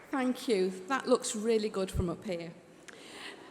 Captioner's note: applause